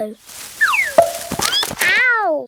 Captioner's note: thud